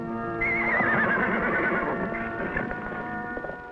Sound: neighs

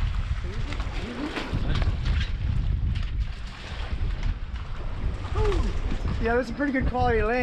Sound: fish thrashing

